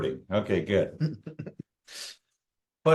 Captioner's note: chuckles